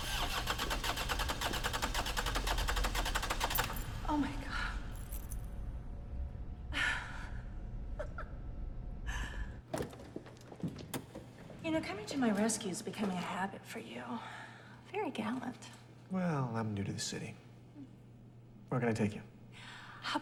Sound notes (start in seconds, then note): 7.9 Elaine laughs; 10.8 car door clicks